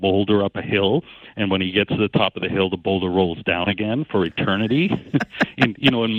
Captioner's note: laughing